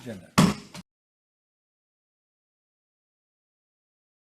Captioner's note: gavel bangs